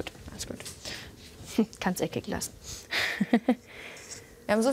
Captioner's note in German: lacht